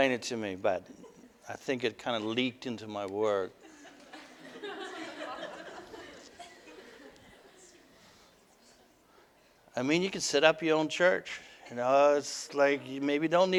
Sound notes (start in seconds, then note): 3.5 audience: Laughter